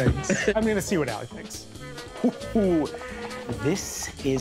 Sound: quietly laughing

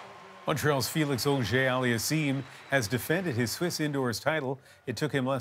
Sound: applause

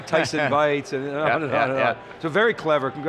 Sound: laughing

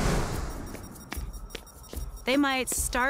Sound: beeping

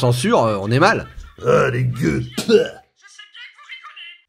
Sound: spitting

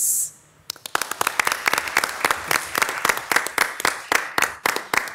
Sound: audience clapping

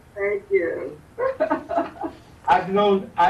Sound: chuckles

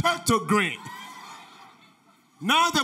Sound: audience laughter

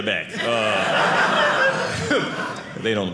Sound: audience laughing

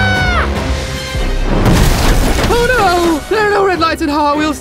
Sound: screams

